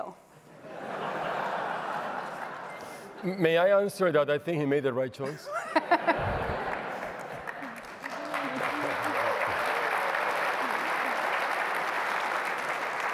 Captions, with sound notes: [LAUGHTER] May I answer that I think he made the right choice? [LAUGHTER] [APPLAUSE]